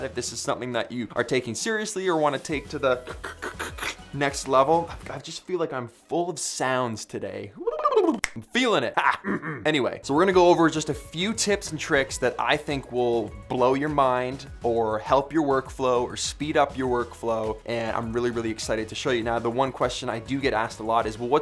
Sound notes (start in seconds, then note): 8.1 snaps fingers; 9.1 blubbers